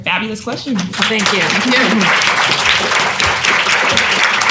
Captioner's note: applause